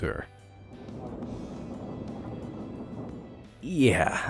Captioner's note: train engine revving